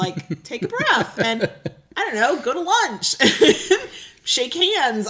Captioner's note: laughs